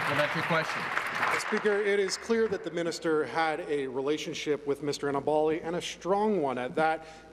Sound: applause

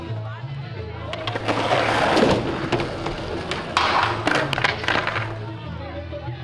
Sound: skateboard clatter; silence

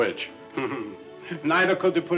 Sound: chuckles

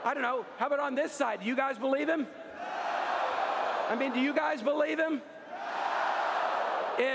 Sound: applause

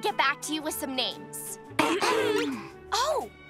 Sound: siblings clearing throats

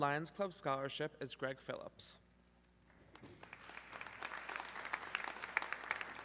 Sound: audience clapping

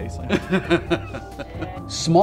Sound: laughter

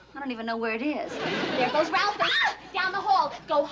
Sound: screaming

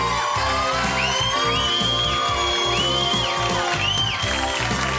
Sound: whistling

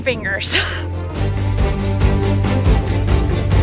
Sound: laughs

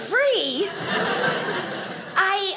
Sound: audience laughing

